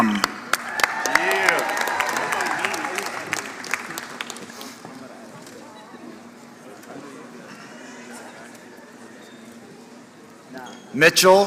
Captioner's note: applause